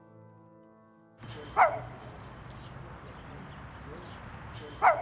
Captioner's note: dog barking